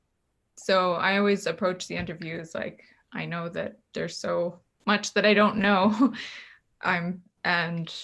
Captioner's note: laughs